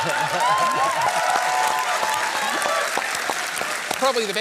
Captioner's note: applause